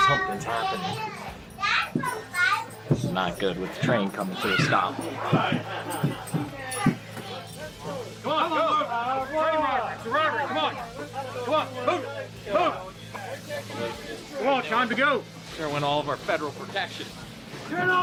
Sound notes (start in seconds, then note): 4.2 spurs jangle